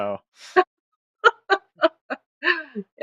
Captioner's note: laughs